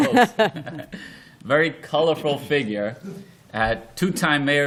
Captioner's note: laughter